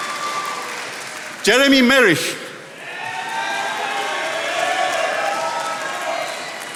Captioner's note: attendees applauding